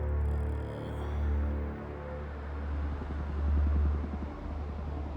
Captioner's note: ambient city sounds